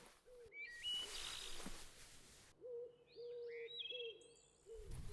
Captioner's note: birds chirping